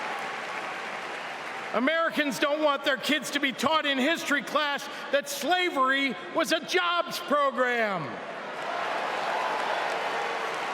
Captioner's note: cheering